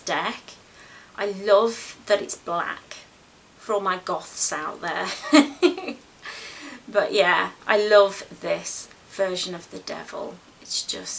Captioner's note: giggles